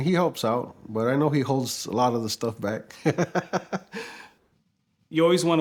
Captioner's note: laughs